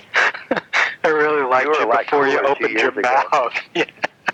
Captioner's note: laughs